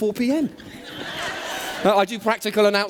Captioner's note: laughter